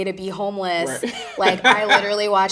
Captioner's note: chuckling